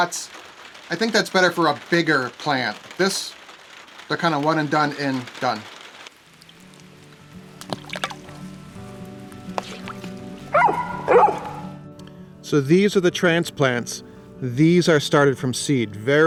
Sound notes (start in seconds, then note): 6.2 light music; 6.6 water splashes; 10.5 dog barks